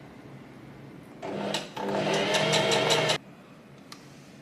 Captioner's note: sewing machine surges